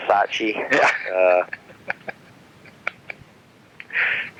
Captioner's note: laughing